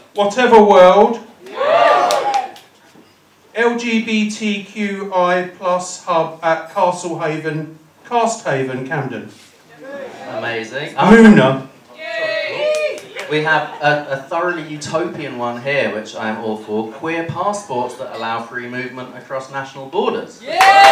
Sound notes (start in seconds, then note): 1.4 cheering; 9.0 cheering; 20.4 cheering